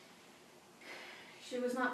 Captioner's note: sighs